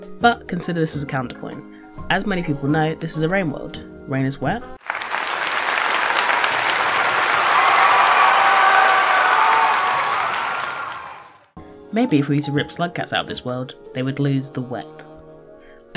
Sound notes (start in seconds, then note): 4.8 applause and cheering